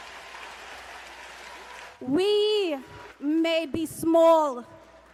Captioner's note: cheers and applause